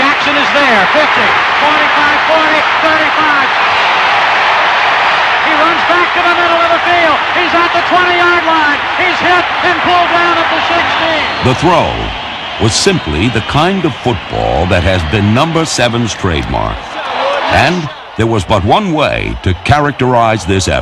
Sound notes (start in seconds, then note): 2.9 crowd cheering